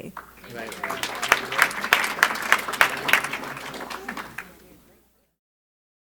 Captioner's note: applause